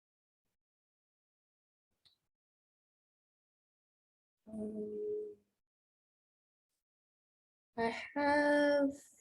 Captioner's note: no audio